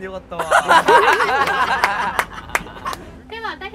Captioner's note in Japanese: 拍手